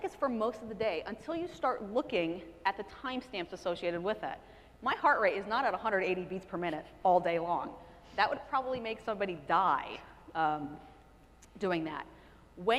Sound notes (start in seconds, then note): none